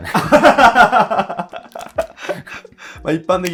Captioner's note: laughing